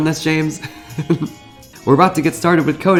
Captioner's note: laughs